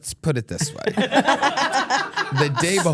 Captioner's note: laugh